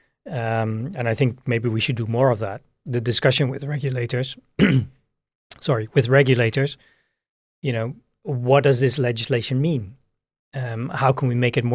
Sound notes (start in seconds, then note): 4.6 clears throat